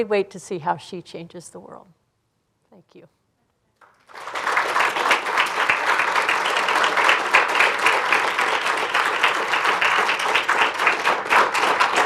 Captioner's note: applause